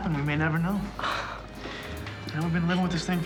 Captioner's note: sighs